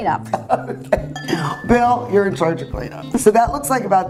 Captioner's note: laughs